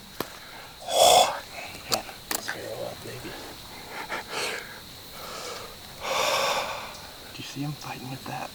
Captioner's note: exhales